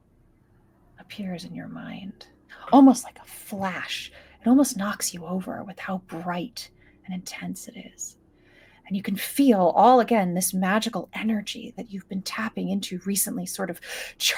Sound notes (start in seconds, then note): none